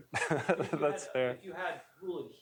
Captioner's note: laughs